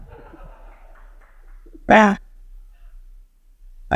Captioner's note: people laughing